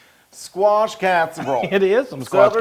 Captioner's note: laugh